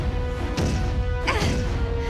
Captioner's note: Riley grunts